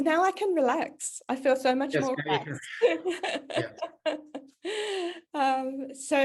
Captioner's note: laughs